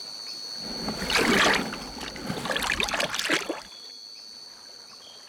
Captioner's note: water splashing